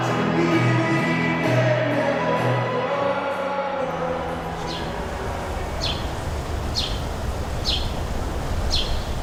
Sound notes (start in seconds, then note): 3.7 music fades out; 5.9 birds chirping